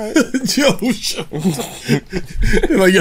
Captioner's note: laughter